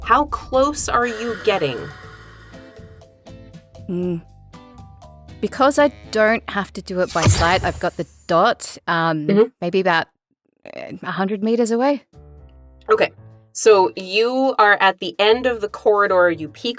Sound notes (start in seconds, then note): none